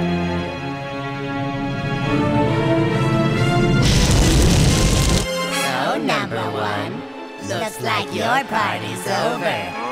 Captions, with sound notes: [ RUMBLING ] SO, NUMBUH 1, LOOKS LIKE YOUR PARTY'S OVER.